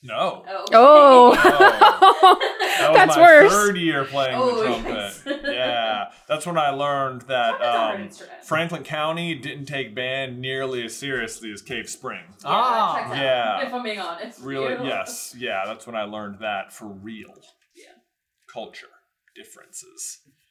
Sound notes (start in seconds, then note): 0.8 laughter